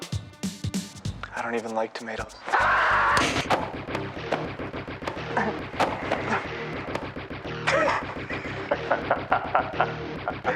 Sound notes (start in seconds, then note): 2.5 screams; 7.6 genie laughing